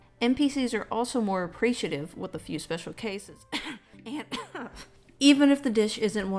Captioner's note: cough